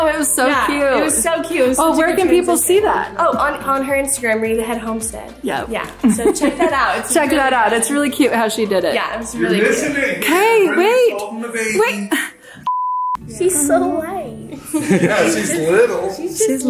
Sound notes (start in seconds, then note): 12.7 sighs; 14.5 everyone chuckles